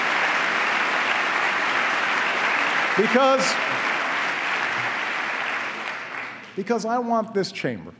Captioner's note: applause